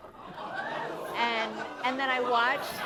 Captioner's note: laughter